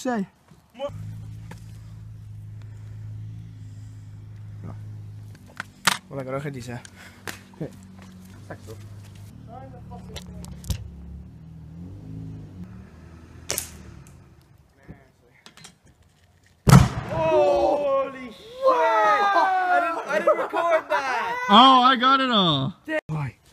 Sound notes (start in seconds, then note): 16.6 explosion